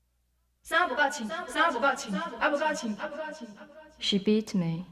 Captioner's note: speaking another language